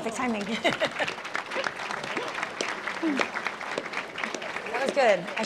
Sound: applause

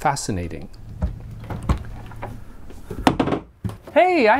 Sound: door opens

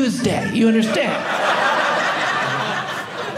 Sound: audience laughing

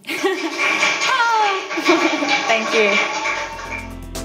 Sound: chuckles; applause

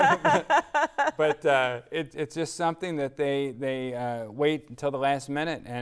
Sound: laughing

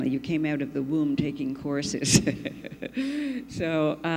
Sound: laughs

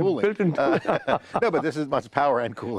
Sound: both laughing

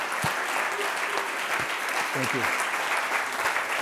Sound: applause

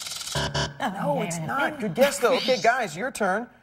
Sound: buzzer; muttering

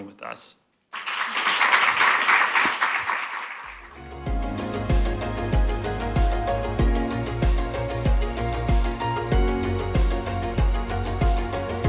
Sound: applause

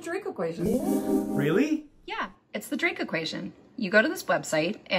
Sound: excited

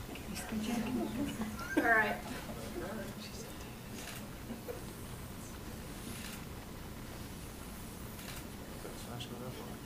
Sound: laughter

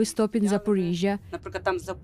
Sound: speaking Foreign Language

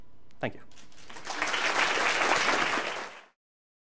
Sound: applause

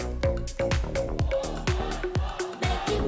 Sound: fanchant

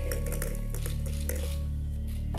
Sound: balls rattling; intense music

